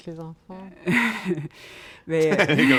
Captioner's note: laughter